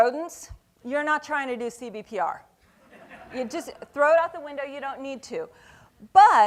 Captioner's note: laughing